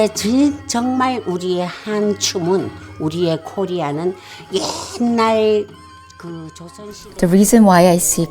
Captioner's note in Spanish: Hablando en coreano